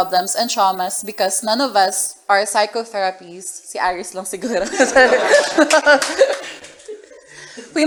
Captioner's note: laughter